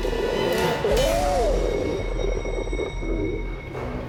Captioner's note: creature roaring